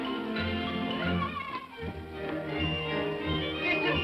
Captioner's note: Tiny Tim cheers; upbeat music